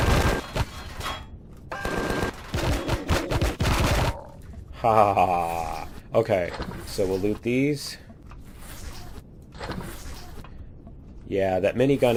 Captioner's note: laughs